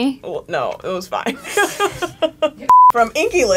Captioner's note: laughs; beep